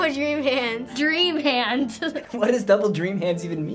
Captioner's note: laugh